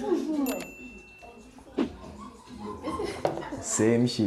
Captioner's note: laughs